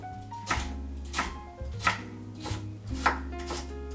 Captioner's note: knife tapping